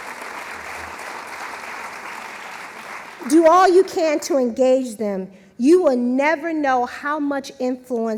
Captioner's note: applause